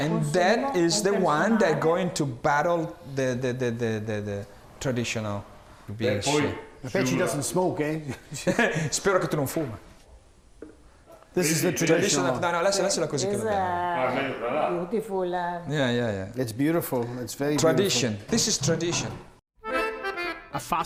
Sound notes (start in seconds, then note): 8.5 speaking Italian; 12.8 speaking Italian; 13.7 with Italian accent